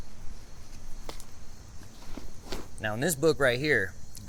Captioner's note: paper rustling; insects chittering